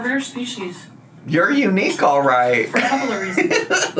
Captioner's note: laughs